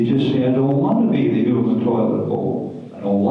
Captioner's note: none